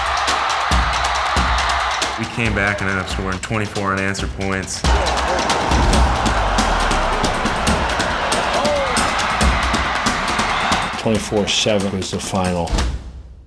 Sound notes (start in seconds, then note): 0.0 drumming; 5.8 drumming and crowd cheers; 10.2 drumming and crowd cheers; 13.2 drum beat